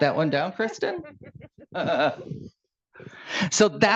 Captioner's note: laughing